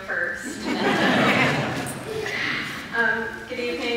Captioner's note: laughter